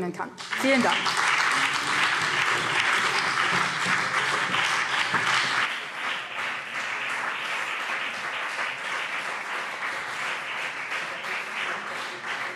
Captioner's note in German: Beifall BÜNDNIS 90/DIE GRÜNEN und CDU